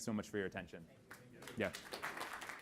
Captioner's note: students clapping